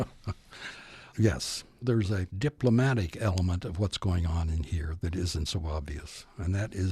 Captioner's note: laughs